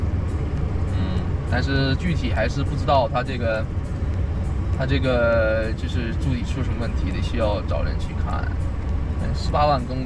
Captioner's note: engine